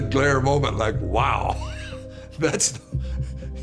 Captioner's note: laughs